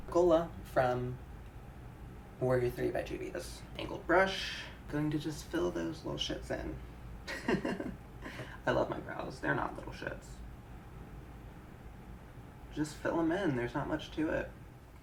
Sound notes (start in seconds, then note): 7.2 chuckling